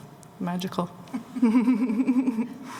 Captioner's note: laughter